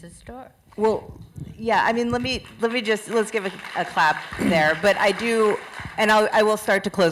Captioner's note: applause